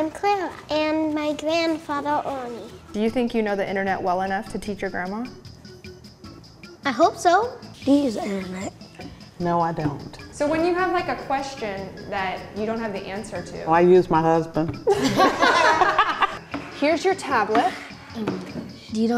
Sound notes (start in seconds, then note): 14.9 laughing